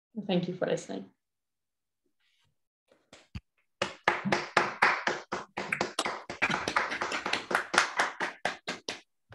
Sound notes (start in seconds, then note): 3.8 applause